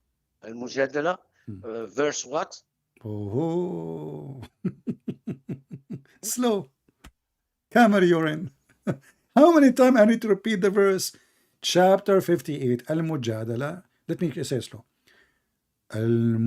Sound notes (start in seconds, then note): 4.4 Ketawa